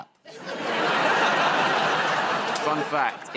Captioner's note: laughter